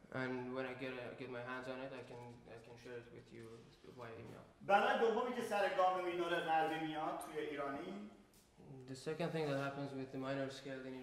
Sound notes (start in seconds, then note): 4.4 speaking in farsi